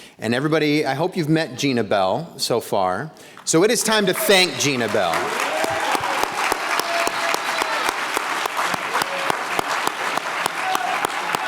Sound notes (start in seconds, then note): 5.4 attendees cheering; 5.4 everyone applauding